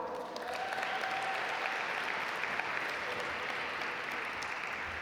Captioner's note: audience applaud